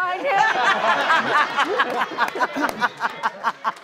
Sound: audience laughs

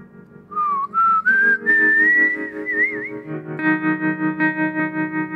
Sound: whistling

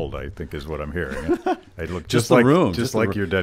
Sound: laughs

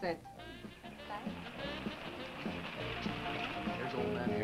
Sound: engine rumbling

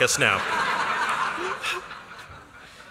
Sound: laughter

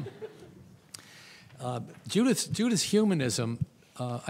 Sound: audience chuckles

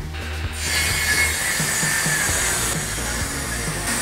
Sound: saw screeches

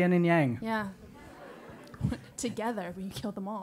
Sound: laugh

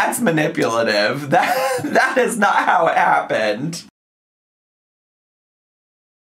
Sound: laughs

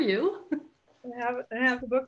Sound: chuckles

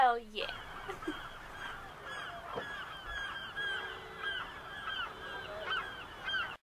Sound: seagulls and car horns

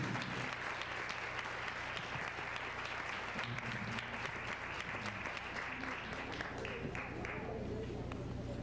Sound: applause

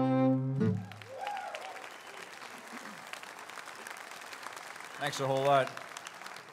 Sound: audience cheers and applauds

